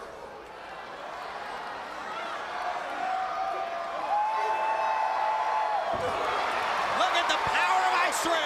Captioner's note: crowd cheering